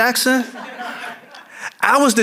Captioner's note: audience laughing